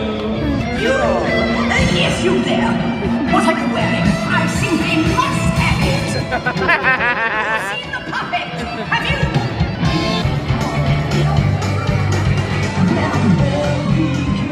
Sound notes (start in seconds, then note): 6.1 laughing; 10.0 upbeat music